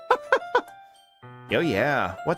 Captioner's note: laughs